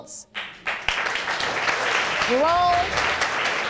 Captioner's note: audience applauding